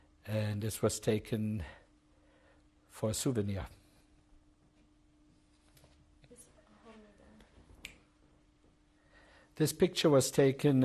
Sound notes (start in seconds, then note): 3.6 pauses for 6 seconds